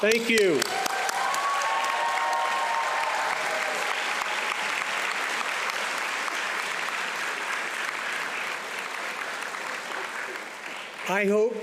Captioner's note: audience applauding